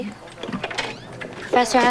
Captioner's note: door opens